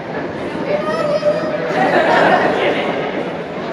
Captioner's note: laughter